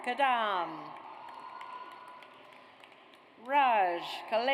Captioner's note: audience cheers